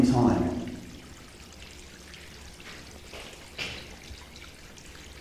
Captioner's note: water dripping